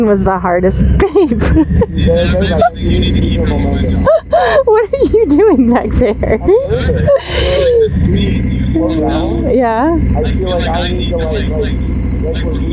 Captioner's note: laughter